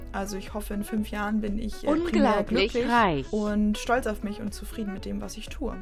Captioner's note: siri voice: FILTHY RICH